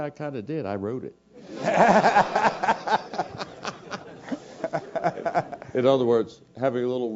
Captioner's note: laugh